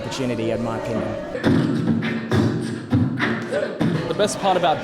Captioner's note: beatboxing